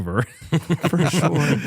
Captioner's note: laughter